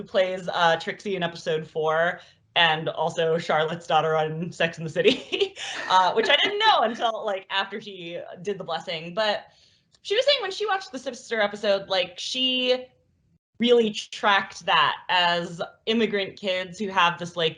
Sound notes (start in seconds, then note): 5.6 both laugh